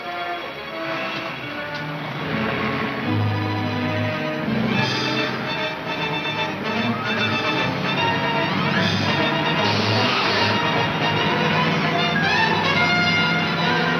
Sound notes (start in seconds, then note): 0.9 car starting; 3.8 exciting orchestra music